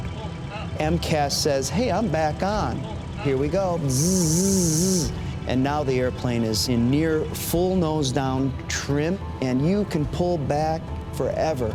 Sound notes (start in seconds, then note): 2.9 imitates whirring